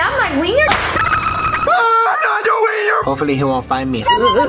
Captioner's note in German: schreit